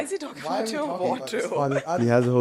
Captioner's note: chuckles